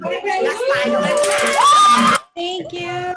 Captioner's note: cheering